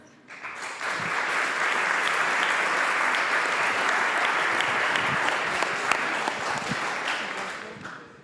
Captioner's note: applause